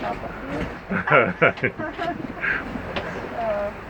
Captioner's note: laughs